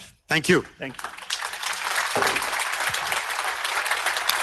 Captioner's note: audience applauds